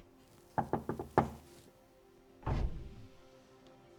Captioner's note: hand knocking; door clattering; pensive music